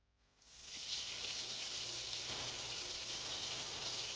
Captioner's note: water running